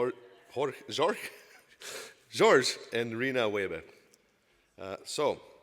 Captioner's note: laughs